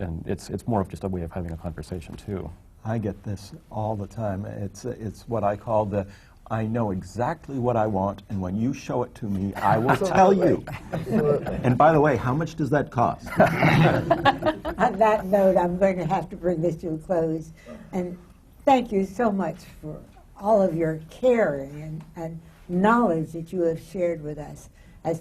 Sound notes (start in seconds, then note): 13.2 laughter